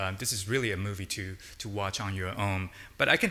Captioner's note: none